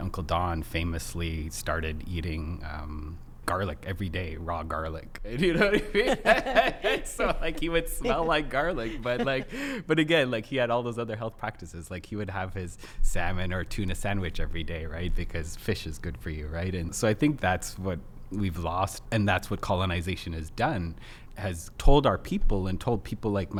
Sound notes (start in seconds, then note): 5.3 laughs